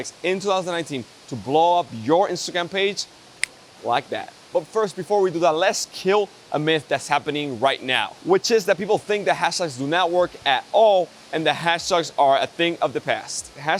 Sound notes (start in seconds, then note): 3.4 clicks